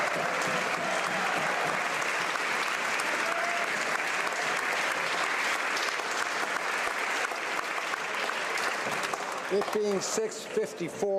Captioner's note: applause